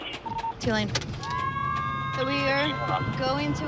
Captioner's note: radio beeps; siren wails